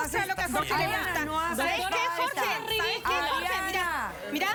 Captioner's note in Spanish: Hablan al unísono